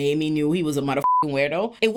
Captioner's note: beep